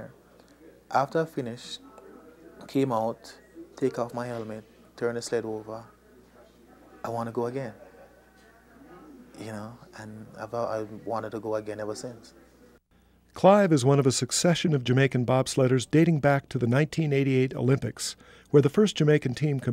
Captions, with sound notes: After I finished, I came out, take off my helmet, turn the sled over, I wanna go again. You know, and I thought I wanted to go again ever since. - [Voiceover] Clive is one of a succession of Jamaican bobsledders dating back to the 1988 Olympics where the first Jamaican team competed,